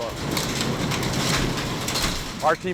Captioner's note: hail clanking